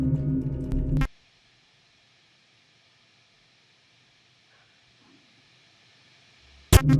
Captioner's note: static crackles; static humming